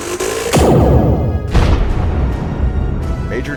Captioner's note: zap; boom